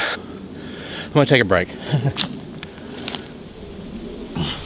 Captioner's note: laughs